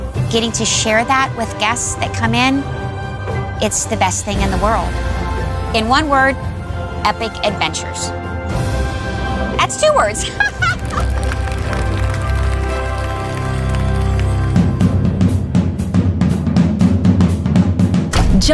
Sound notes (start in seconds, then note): 10.1 laughs; 10.2 applause; 15.4 upbeat swing music